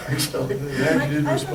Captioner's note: multiple voices speaking